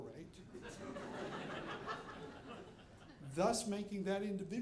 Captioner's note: audience laughing